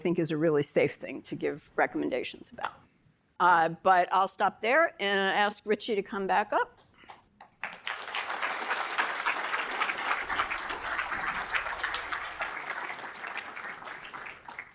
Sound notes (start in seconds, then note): 7.6 audience applauding